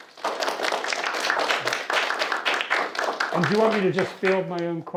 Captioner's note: students clapping